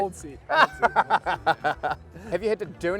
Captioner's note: laughing